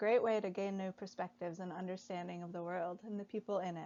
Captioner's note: none